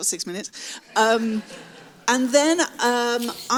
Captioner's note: audience laughs